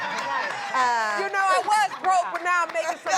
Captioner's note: laughter